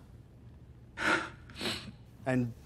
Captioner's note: exhales sharply